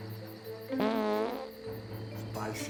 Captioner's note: farting sound